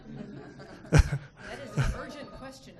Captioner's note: people laughing; laughing